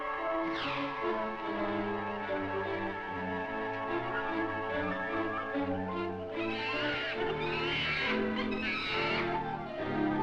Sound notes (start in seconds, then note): 6.4 monkey screeches